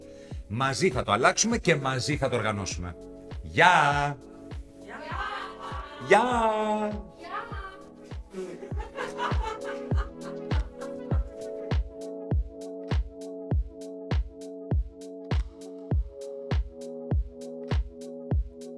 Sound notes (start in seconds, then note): 8.3 laughter